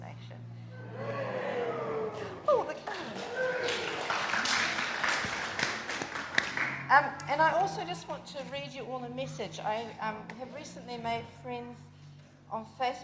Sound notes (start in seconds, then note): 2.0 applause!